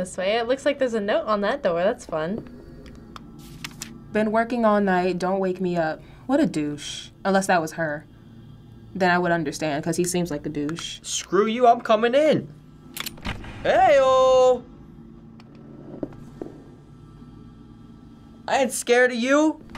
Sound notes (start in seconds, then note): 3.4 paper flipping